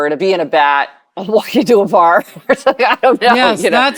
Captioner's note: chuckling